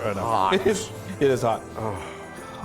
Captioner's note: chuckling